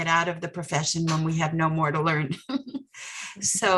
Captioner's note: laughs